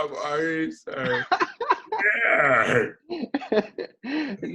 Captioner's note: laughs